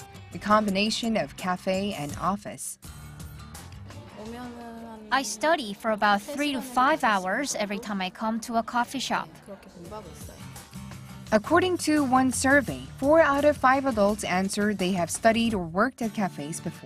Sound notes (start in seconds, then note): 4.2 Korean